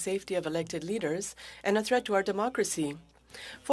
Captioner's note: speaking French